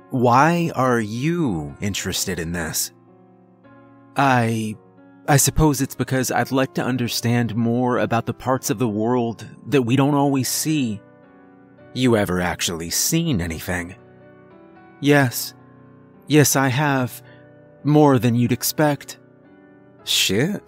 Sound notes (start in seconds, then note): 3.2 silence